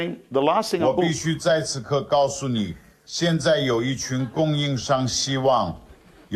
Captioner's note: speaking in foreign language